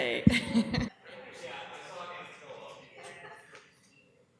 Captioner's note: chatter